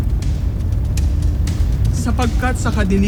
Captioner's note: fire crackling